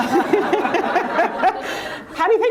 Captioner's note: laughter